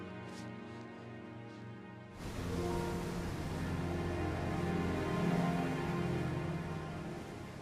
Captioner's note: waves splashing